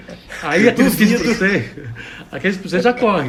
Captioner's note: laughs jokingly